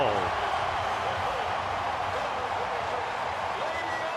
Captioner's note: crowd cheering